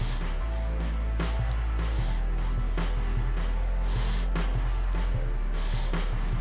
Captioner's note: inhale